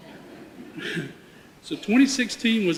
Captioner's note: audience laughter